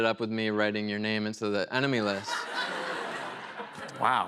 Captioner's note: laughter